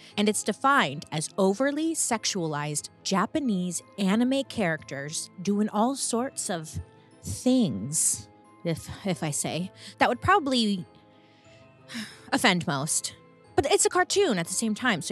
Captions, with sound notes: And it's defined as overly sexualized Japanese anime characters doing all sorts of things, if, if I say. That would probably (sighs) offend most but it's a cartoon at the same time,